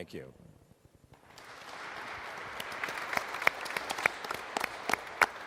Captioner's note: audience and panelists applauding